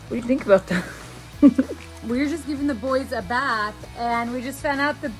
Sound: laugh

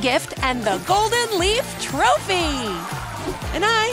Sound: crowd cheers

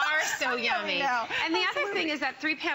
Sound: laughter

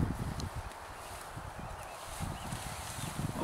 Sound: bird chirping

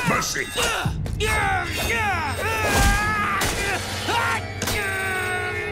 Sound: grunting

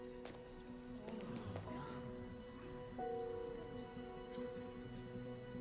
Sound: footsteps; a few individuals gasping

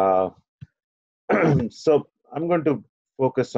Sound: clears throat

